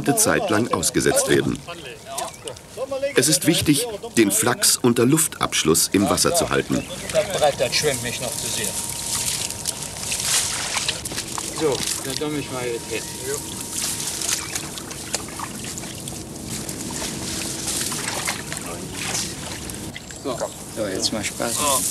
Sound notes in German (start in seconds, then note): 6.7 Arbeitsgeräusche und -gespräch